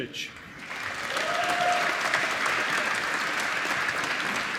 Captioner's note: applause